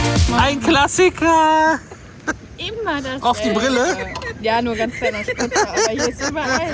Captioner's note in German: gelächter